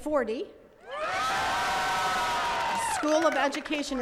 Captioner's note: attendees cheering and clapping